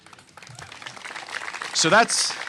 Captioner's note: applause